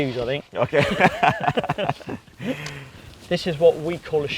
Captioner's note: laughing